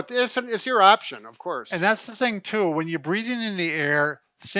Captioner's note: none